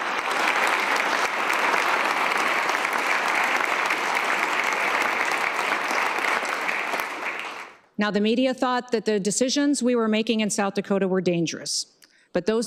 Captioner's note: applause